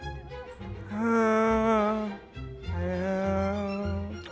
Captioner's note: groaning